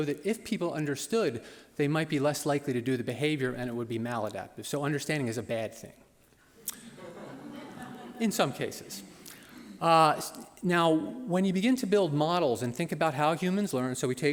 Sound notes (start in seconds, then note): 6.7 laughter